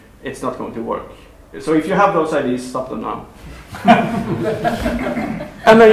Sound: laughter

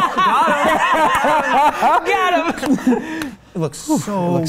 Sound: group Laughs

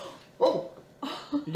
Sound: Lillian gasps

